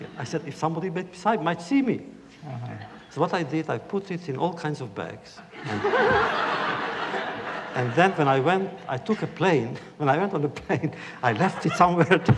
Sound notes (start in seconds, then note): 5.5 laughter; 11.1 laughs